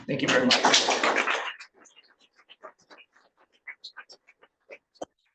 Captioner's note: attendants applauding